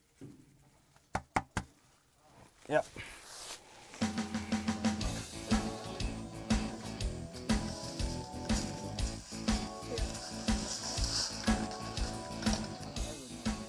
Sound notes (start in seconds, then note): 4.1 upbeat rock music; 7.4 leaves crunching; 12.0 upbeat rock music